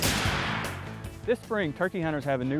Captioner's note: shot fires